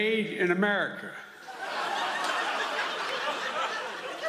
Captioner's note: laughter